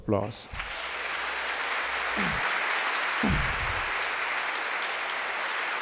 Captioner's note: crowd clapping; crowd cheering